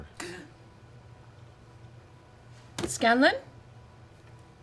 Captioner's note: gasps awake